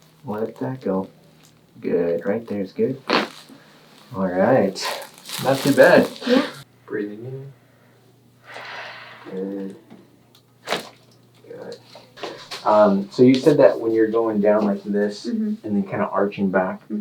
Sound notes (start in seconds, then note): 4.9 bones cracking; 8.4 inhales deeply; 10.7 bones cracking